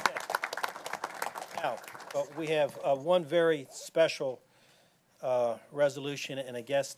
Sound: applause

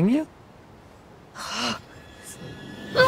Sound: annoyed sigh

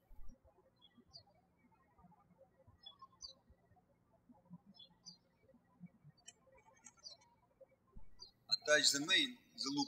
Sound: birds chirping

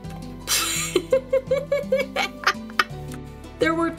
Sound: laughter

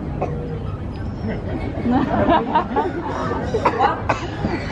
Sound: audience laughing

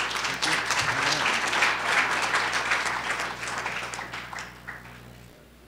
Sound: applause

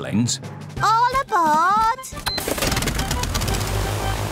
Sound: engines whirring

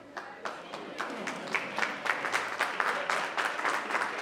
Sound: attendees applauding

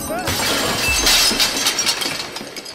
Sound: sound of glass breaking

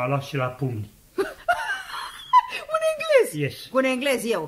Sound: laughs

